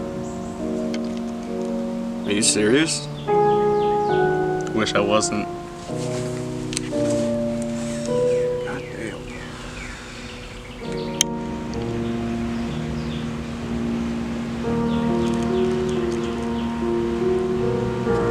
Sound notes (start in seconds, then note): 8.8 whispers